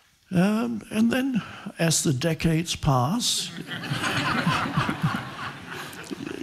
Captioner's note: audience laughing